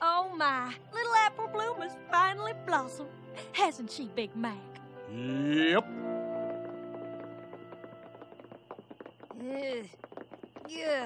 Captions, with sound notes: UGH. UGH. OHH! WHAT IN TARNATION IS THAT? [ TAPPING CONTINUES ]